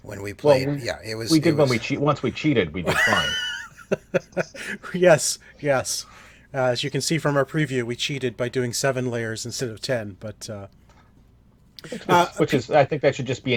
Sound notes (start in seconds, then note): 2.8 laughter